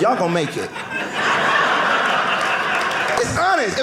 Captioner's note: audience laughing